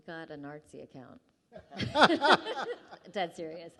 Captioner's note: laughing